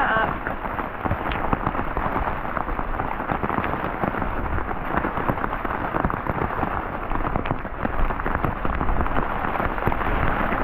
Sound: rain on tarp

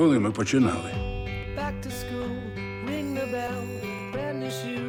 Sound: bell rings

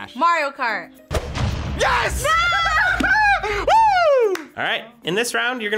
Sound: laughs

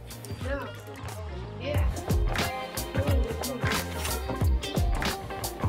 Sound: upbeat music; indistinct conversation

